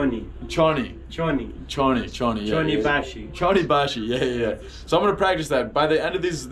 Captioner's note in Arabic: كلام بلغة أجنبية